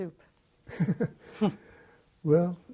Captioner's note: laughing